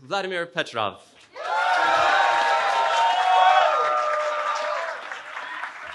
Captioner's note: cheering